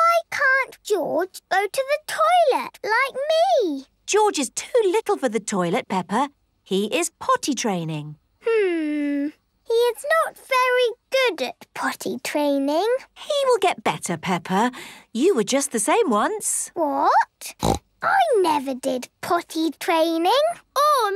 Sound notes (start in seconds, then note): 17.5 snorts